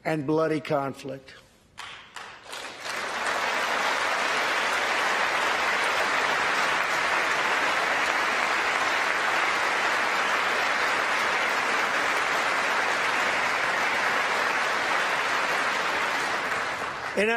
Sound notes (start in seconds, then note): 5.3 applause